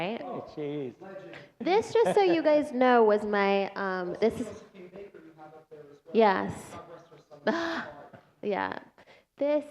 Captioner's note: laughter